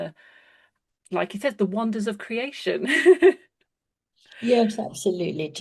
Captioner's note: laughs